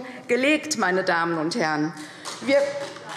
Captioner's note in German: Beifall CDU